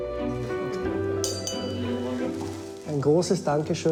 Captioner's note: glass clinks; speaking in foreign language